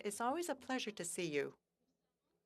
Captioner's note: speaking French